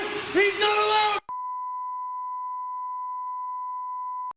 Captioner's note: long beep